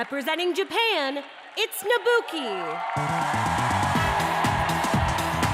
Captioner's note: cheers and applause